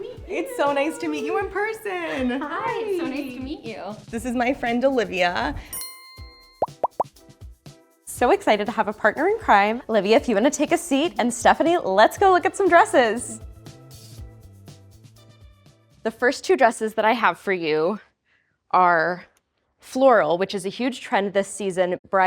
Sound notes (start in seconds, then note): 5.8 bell chimes; 6.6 electronic popping